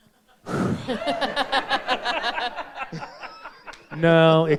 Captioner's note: all laughing